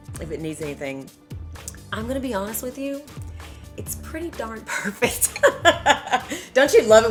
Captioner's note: laughter